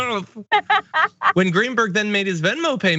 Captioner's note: laugh